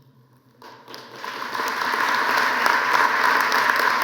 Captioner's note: applause